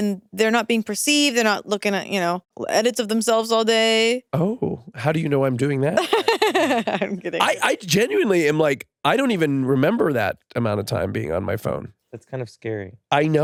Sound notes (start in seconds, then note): 6.0 chuckles